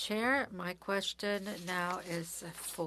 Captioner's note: speaking French